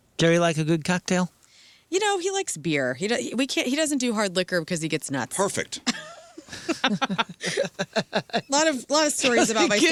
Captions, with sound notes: Jerry likes a good cocktail? You know, he likes beer. He doesn't do hard liquor because he gets nuts. Perfect. (laughing) A lot of stories about my